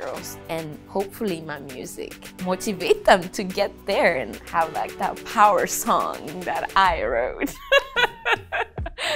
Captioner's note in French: Rire